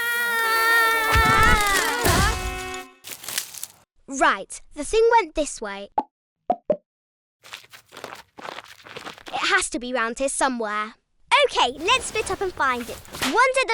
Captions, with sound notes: (Isabella screams) (Olivia cries out) (bodies thud) - Right, the thing went this way. It has to be around here somewhere. - Okay, let's split up and find it.